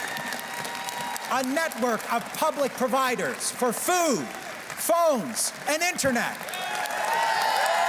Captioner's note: cheers and Applause